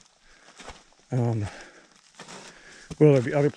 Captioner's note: footsteps thumping